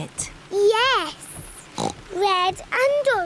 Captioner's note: oinks